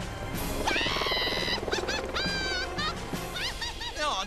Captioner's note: laughing